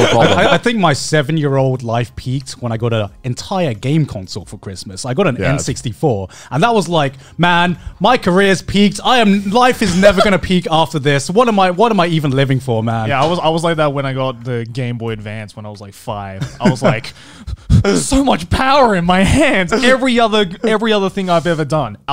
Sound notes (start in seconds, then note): 17.0 panting